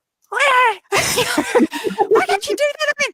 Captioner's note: grunts